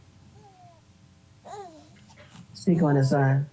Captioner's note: baby cries